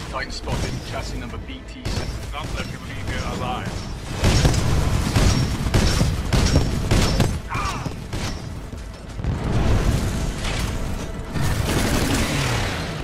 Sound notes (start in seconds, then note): 3.0 radio; 8.5 angry frustrated scream